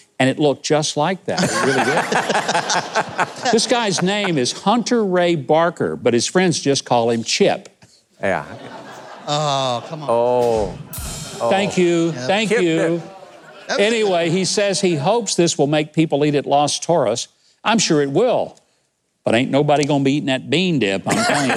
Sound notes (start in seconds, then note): 1.4 audience laughs; 8.4 audience laughs, guest groans; 10.4 cymbal crashes